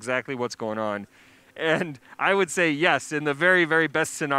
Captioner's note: chuckles